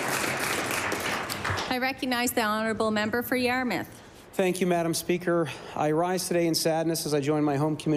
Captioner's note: applause